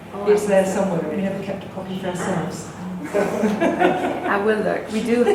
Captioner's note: laughs